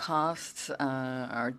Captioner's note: speaking French